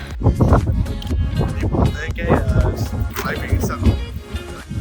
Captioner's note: wind sound